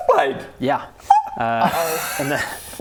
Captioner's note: squeak